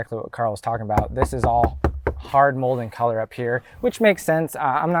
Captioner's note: bangs dashboard